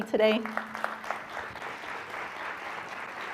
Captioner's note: applause